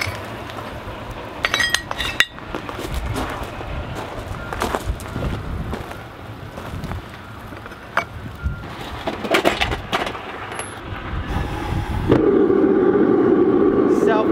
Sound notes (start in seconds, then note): 1.4 metal clinking; 9.3 lid rattling; 11.4 fire igniting and roaring again